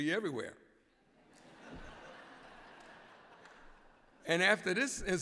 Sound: laughter

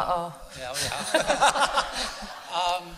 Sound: laughter

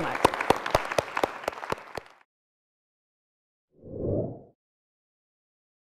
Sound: applause

